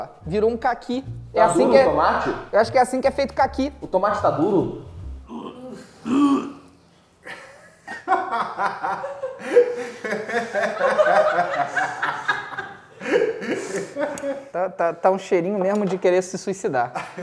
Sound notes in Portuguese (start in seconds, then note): 7.2 risadas